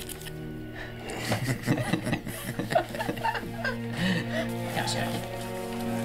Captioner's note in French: Rires